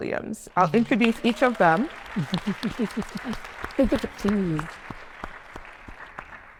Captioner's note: attendees applauding